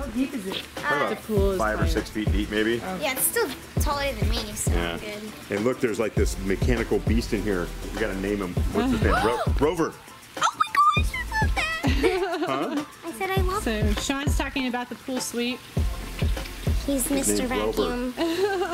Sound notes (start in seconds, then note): 9.7 gasps; 11.5 laughs; 18.1 laughs